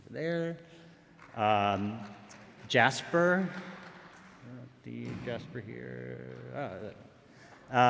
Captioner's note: applause